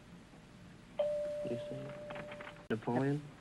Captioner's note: whispering; chime rings